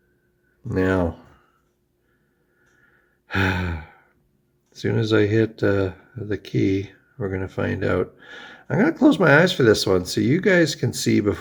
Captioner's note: sighs